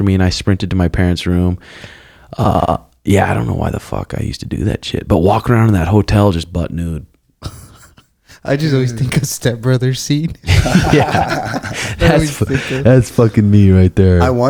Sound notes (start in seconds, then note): 7.4 chuckles; 10.4 laughing